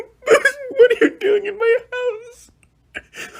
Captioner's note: sobbing